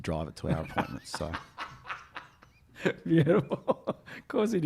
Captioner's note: laughing